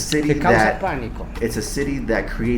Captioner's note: Spanish